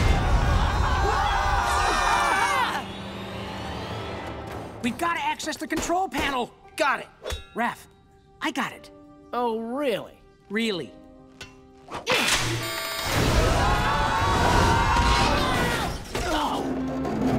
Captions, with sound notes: [screaming] We've got to access the control panel. -Got it. -Raph, I got it. -Oh really? -Really? [screaming] [groaning]